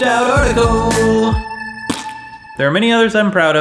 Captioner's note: fart noise